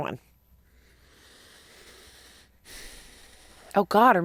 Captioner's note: inhales and exhales deeply